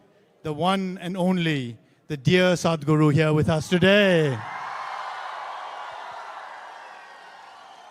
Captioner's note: cheering/Applause